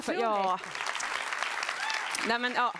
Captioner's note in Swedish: applåder